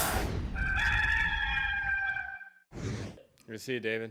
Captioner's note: cock crows